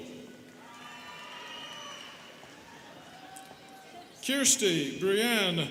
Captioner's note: students cheering